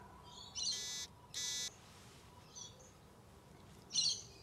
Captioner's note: beeping